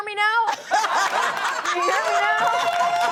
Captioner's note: audience laughing; audience cheering